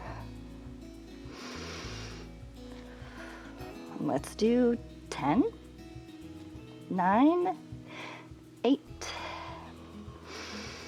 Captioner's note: inhales and exhales